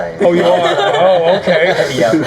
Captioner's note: laughing